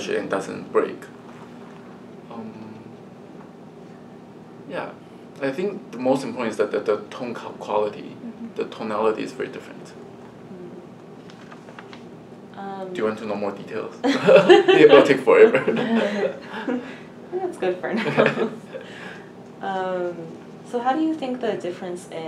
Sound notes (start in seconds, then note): 14.0 all laugh